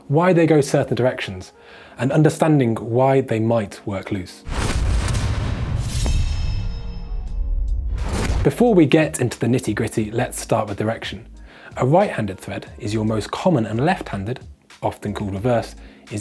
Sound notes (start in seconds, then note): 4.4 dramatic sound